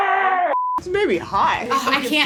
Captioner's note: beep